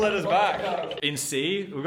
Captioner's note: footsteps pattering